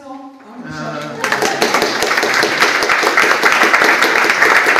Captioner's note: audience applauds